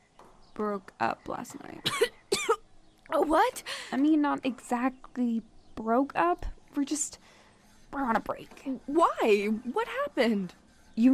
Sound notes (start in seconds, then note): 2.4 chokes